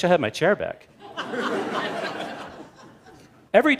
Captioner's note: laughter